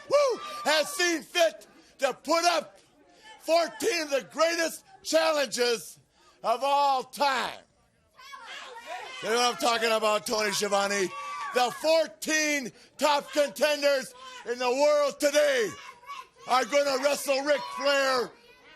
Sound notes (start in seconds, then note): 8.3 crowd chatter